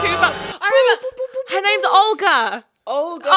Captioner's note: dramatic music; imitating siren